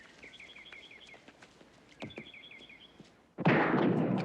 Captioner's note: gunshots